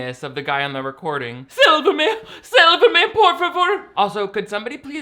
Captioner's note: speaking Spanish